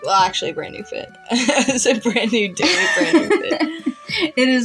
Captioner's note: laugh